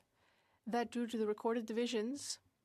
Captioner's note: speaking french